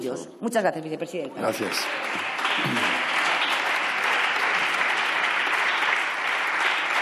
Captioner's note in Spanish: Aplausos